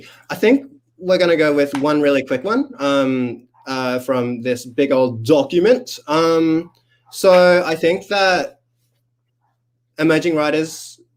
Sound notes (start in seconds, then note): none